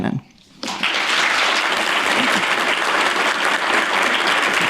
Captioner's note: applause